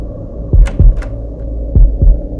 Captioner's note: Cupboards door opens